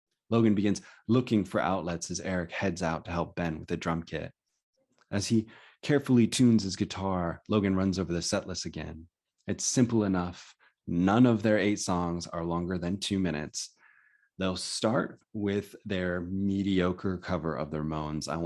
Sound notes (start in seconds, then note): none